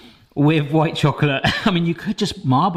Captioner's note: chuckles